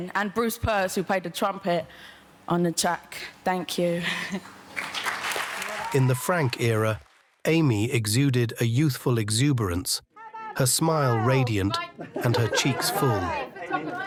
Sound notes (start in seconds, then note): 4.4 audience applauds